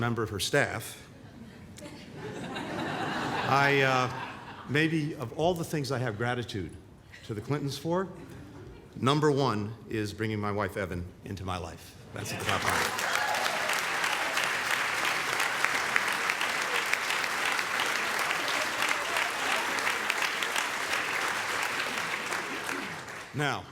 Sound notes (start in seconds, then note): 1.2 laughter; 17.7 applause